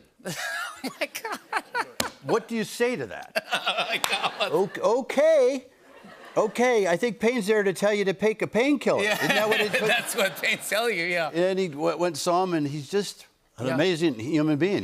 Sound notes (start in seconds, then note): 0.2 laughs; 3.3 laughter